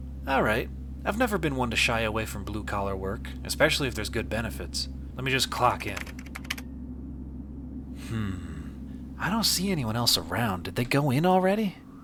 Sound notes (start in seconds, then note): 5.9 typing on keyboard